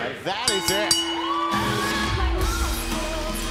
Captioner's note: bell